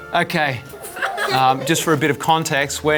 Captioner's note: children laughing